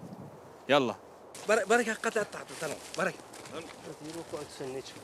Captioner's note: Arabic spoken audio